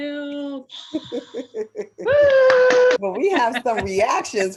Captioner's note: laughing and clapping